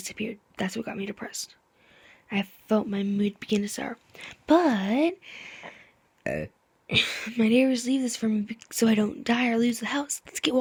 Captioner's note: burp